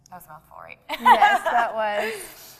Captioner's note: laughs